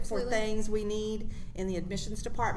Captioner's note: none